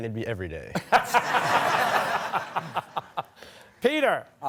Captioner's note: laughter